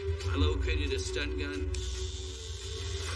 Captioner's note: zapping